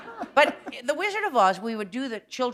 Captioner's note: laughter